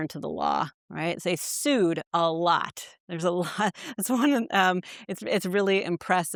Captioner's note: chuckles